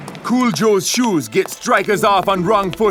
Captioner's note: none